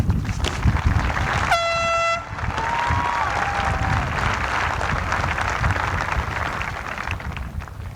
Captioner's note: applause